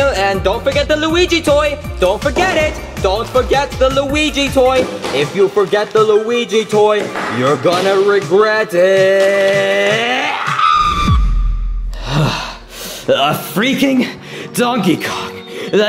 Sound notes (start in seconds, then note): 10.0 yelling; 11.9 sighs